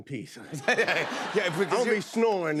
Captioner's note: laughter